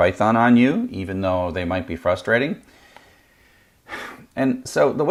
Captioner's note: sighs